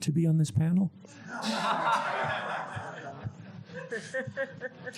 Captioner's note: audience laughs